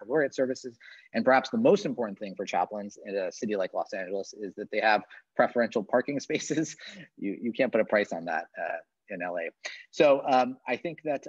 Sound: chuckles

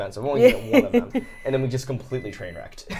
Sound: chuckling

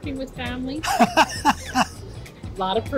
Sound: laughs

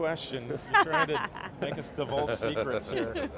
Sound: laughs

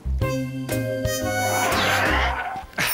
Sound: whoosh!

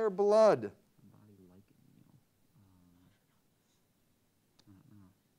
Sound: team murmuring

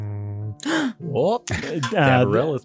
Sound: gasps

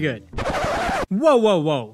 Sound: record Scratch

